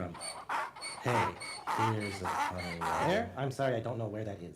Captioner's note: donkey braying